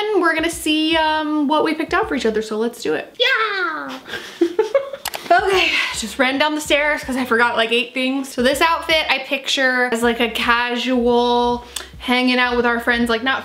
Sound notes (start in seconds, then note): 3.9 both laughs